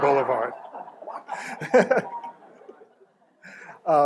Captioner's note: laughter